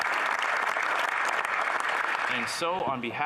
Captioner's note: some Applause